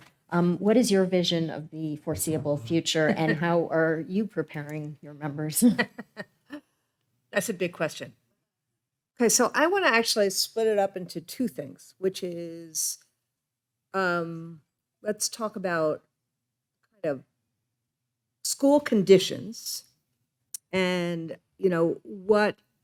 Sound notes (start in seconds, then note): 2.2 laughing; 5.6 laughing